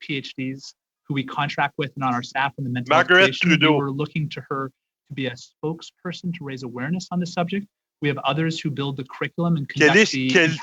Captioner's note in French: voix de l'interprète